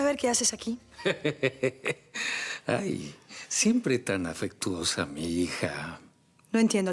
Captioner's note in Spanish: Risas de Bernardo